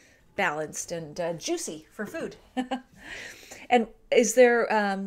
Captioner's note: chuckles